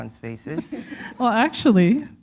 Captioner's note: chuckle